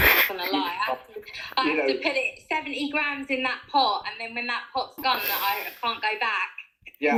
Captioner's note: laughter